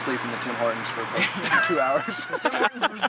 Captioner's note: all laughing